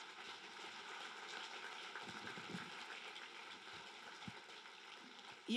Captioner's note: applause